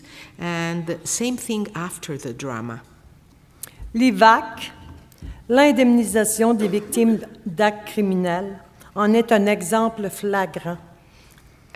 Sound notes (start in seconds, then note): 3.8 speaking French